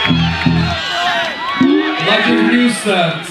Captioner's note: crowd cheers